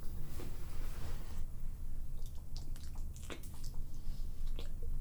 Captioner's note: soft chewing